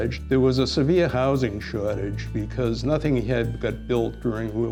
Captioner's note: none